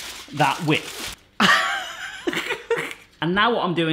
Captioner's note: laughing